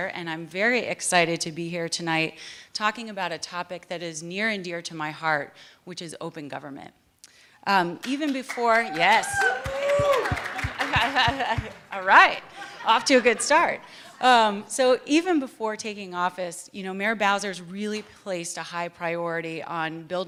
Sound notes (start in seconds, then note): 8.0 applause; 10.6 laughter